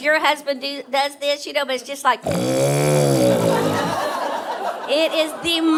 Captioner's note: snoring loudly